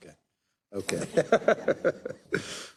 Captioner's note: laugh